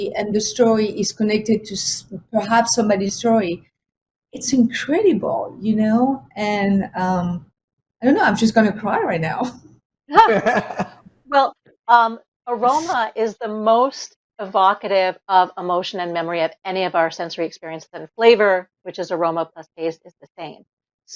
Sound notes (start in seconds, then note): 10.2 all laughing